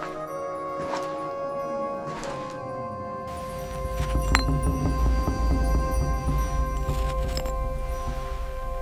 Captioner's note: footsteps thud; instrumental music plays